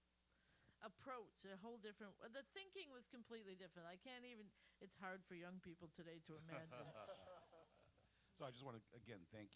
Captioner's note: laughter